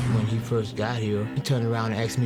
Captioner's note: voiceover